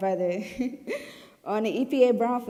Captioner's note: giggling